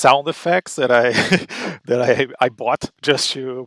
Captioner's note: chuckles